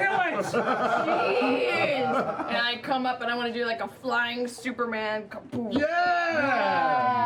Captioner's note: impact